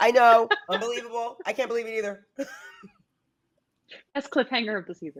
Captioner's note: laughs